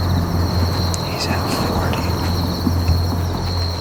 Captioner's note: whispering